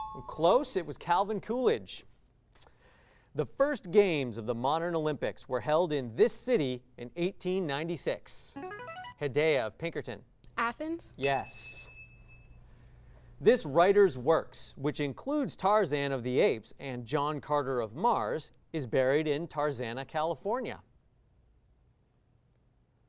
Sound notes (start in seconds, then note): 8.6 signaling device tone; 11.2 ding